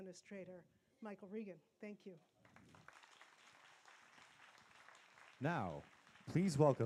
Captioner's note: applause